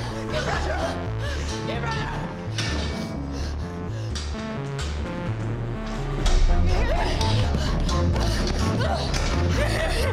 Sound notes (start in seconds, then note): 3.3 panicked breathing; 3.3 suspenseful music